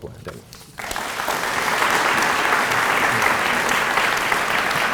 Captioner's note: applause